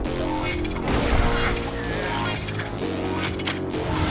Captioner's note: loud explosion